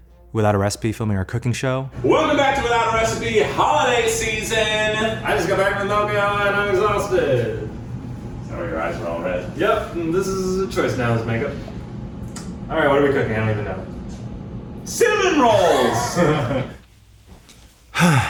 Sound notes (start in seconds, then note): 10.0 slurring; 17.9 laughs